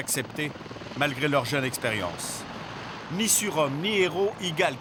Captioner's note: French spoken audio